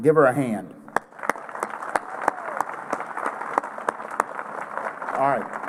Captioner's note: applause